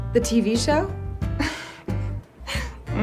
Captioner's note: laughs